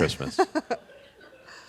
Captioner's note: laughs